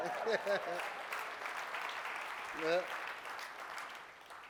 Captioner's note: applause